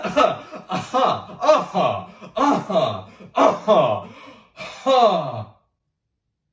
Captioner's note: James joins coughing; more guttural sounds